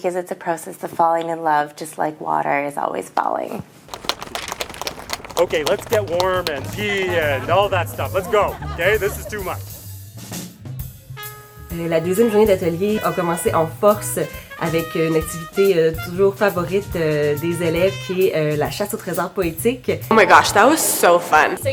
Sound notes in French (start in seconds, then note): 4.0 Applaudissements